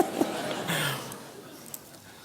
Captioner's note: laughs